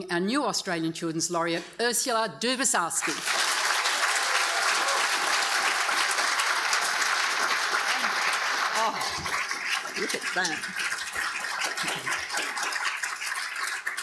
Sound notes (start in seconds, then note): 3.2 audience applauding; 3.2 audience cheering